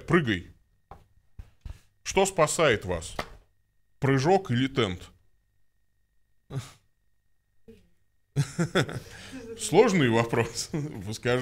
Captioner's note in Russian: смеется